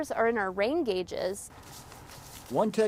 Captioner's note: walking across dry grass